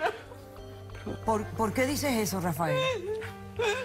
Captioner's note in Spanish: Sollozos